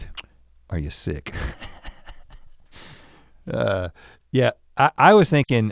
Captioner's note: chuckles